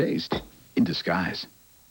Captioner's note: clank of bowl being set down